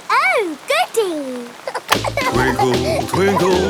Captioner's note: giggling